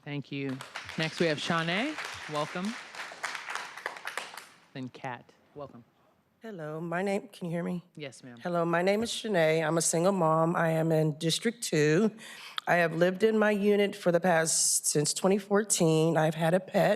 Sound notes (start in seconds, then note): 5.3 applause